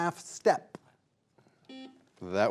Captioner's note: buzzer buzzing